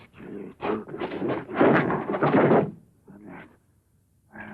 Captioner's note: clattering